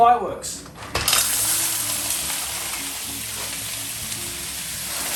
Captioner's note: mussels bubbling